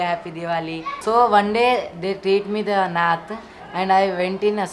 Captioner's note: speaks in foreign language